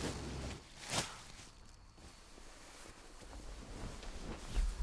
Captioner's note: bags rustling and thuds